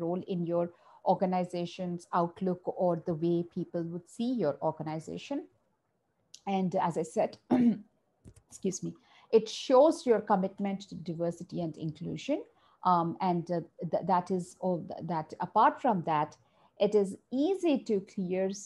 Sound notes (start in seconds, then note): 7.5 coughs